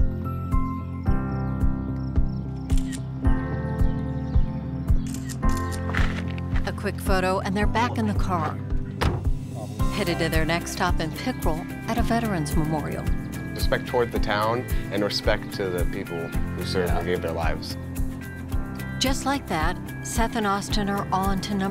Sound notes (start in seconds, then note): 0.3 soft music; 2.7 camera clicking